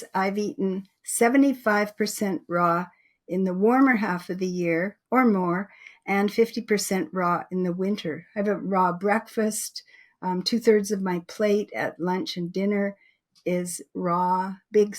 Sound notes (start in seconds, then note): none